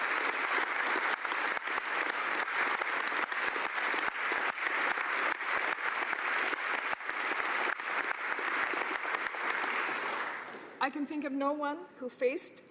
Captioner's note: applause